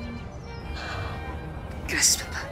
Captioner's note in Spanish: Suspiro